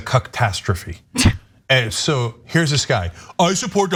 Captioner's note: laugh